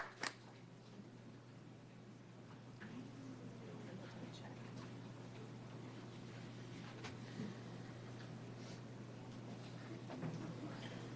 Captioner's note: applause